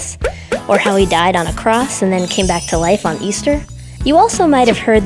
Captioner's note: chimes